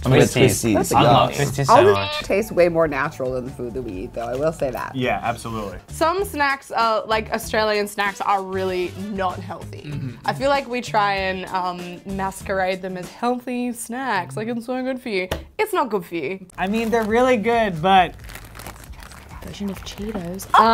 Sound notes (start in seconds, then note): 1.7 meow